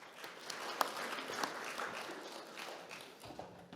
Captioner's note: audience clapping